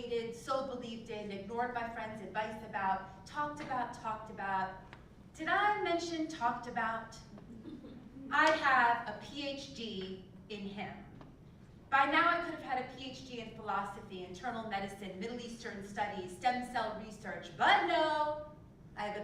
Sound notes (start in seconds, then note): 7.4 laugh